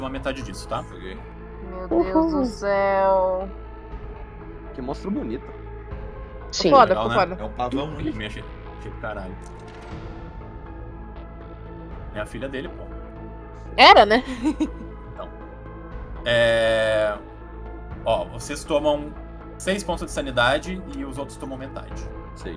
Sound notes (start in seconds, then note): 14.2 laughter